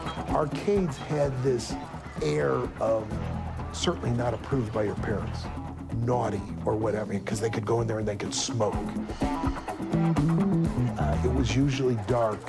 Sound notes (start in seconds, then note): 8.8 exhale